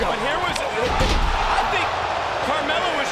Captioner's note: wrestlers thudding; crowd cheering